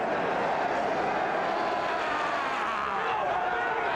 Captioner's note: Sid screams